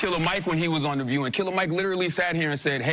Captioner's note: applause